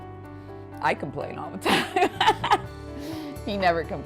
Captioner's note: laughing